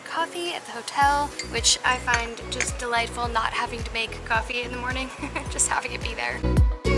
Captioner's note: laughter